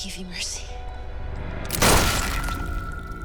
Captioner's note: gunshot